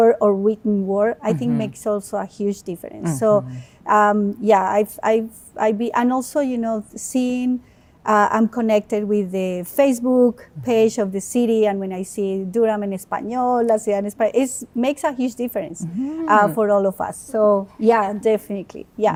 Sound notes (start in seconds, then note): 13.5 speaks Spanish